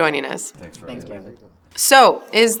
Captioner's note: guests murmur